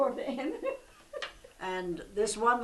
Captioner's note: laughs